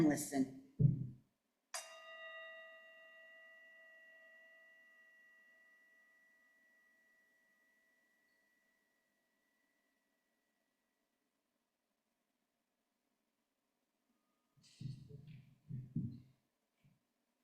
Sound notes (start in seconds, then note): 1.8 bell ringing; 7.2 silence